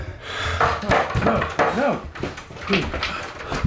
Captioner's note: loud erratic banging